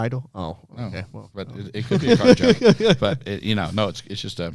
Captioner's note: laughter